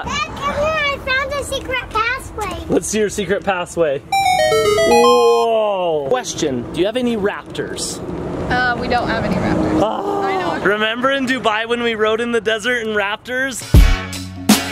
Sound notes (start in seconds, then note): 4.1 video game music; 9.9 groan